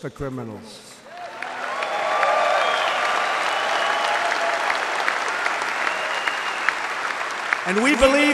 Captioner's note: applause